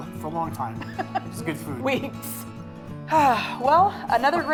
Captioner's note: laughing